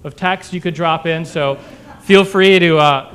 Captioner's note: laughter